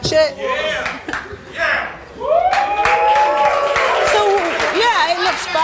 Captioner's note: audience cheering